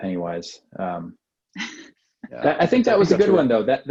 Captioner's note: laughs